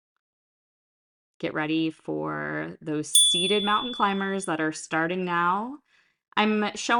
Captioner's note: chime